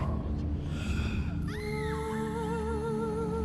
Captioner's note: woman screaming in distance